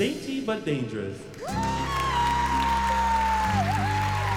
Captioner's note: applause and cheering